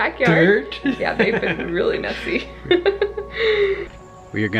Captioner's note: laughs